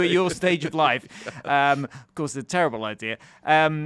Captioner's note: chuckles